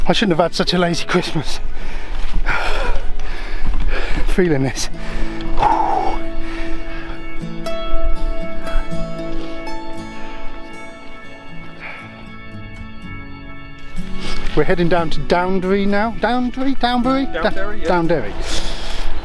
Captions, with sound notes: I shouldn't have had such a lazy Christmas! Feeling this (Exhales) We're heading down to Downderry now - Downderry? Downbury? Downderry !